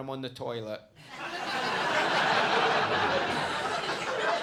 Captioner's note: audience laughing